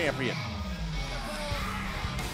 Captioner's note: crowd cheering